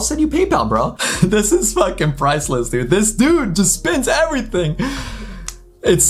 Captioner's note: laughs